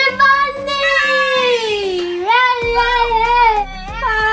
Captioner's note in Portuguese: gritos e berros e urros